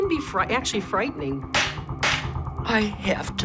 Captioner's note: knife slamming